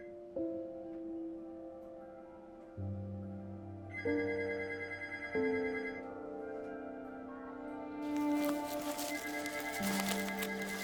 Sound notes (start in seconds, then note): 0.1 calm, ruminative music; 3.3 phone ringing